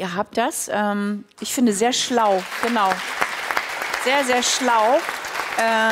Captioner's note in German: Applaus